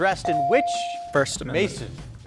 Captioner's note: buzzer dinging